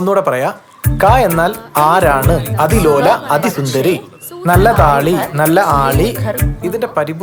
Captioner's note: Reciting Kunchan nambiyar poem